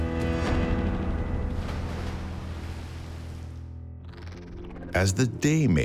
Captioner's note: water splashing